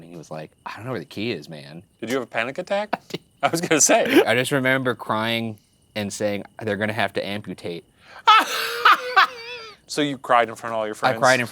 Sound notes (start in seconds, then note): 3.6 laughing; 8.2 laughing